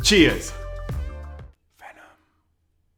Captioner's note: whispered